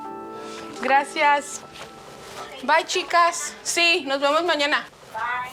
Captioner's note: speaking in Spanish